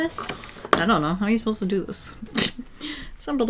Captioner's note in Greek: Γέλια